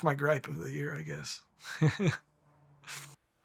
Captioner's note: laughing